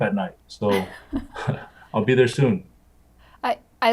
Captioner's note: laughs